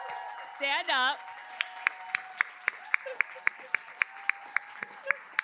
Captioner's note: applause